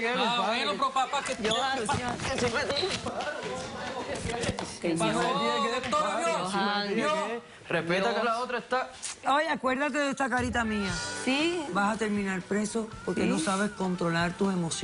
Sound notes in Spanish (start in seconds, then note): 3.6 Hablan al unísono